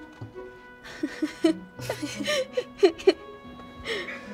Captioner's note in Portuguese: Risos